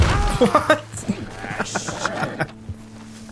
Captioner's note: gentle cackle